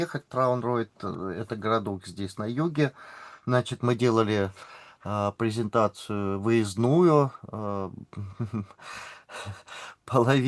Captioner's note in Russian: тяжелое дыхание